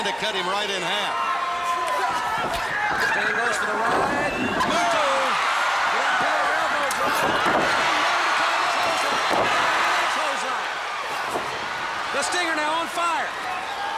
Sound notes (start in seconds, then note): 6.5 crowd cheering